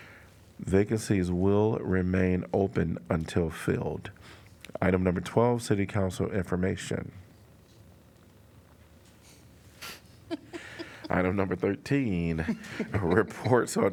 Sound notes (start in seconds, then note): 10.3 laughter